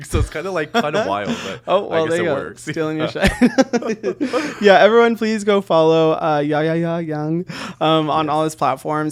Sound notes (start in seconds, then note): 3.1 both giggling